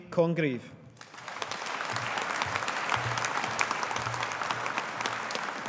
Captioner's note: audience applauding